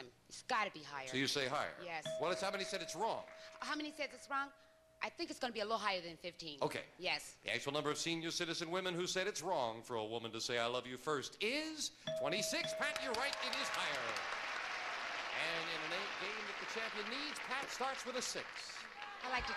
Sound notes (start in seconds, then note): 12.8 audience applauding